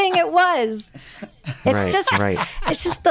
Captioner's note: michael laughing